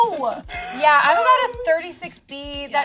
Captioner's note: laughing